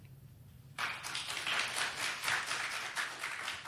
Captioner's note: applause